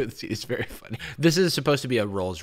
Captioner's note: chuckles